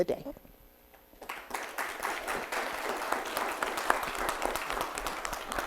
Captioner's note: audience applauding